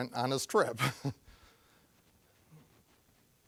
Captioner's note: chuckling